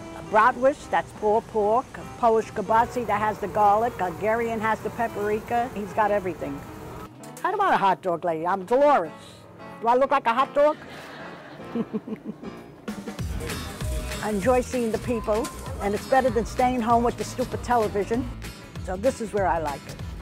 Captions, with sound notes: Bratwurst, that's pulled pork. Polish Kielbasa that has the garlic. Algerian has the paprika. He's got everything. I'm not a hotdog lady, I'm Deloris. Do I look like a hotdog? (laughing) (upbeat music) I enjoy seeing the people and it's better than staying home with the stupid television. Now this is where I like it.